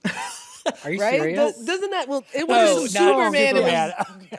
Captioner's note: chuckles; laughs